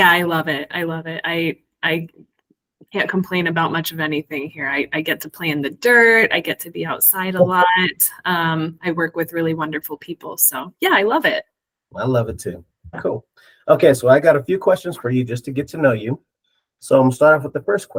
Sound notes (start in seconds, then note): 7.7 chuckles